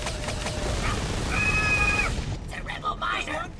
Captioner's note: grunt scream